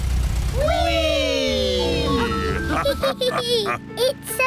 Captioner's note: all laugh